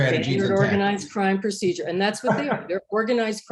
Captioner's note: laughter